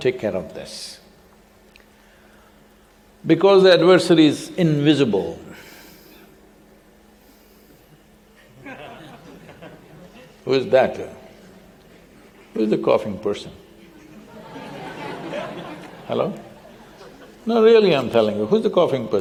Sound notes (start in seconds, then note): 4.7 audience member coughs; 8.4 laughter; 13.8 laughter